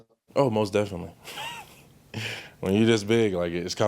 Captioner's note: laughs